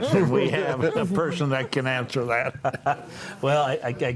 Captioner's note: laughs